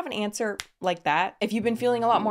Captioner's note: fingers clicking